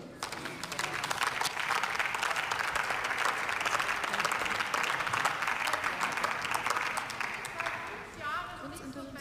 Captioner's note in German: Beifall